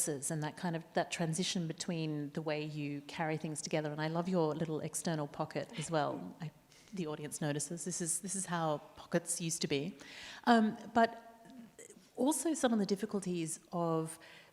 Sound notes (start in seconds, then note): 5.8 chuckles